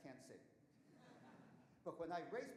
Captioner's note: audience chuckling